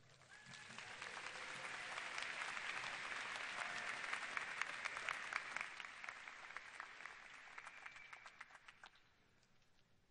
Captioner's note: applause